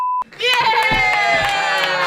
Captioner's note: everyone cheers